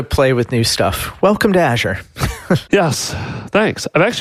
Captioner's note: laughs